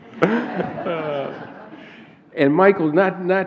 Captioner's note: laughter